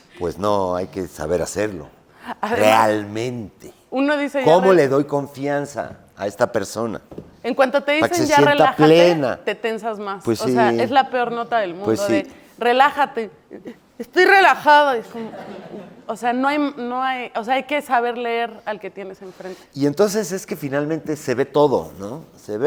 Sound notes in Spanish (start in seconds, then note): 15.1 Risas